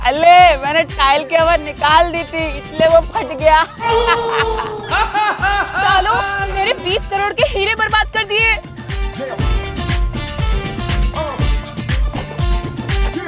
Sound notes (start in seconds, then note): 3.2 laughing